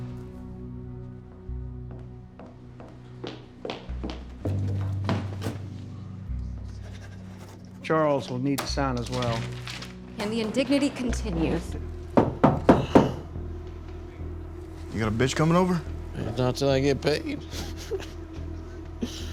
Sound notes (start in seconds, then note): 6.3 scribbling; 12.1 knocking; 17.3 laughs